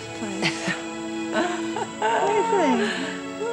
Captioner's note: Wanda laughs